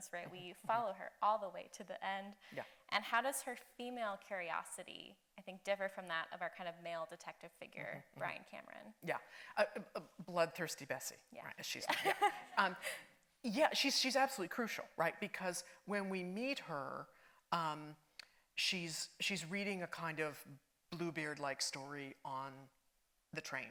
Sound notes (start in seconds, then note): 11.8 laughs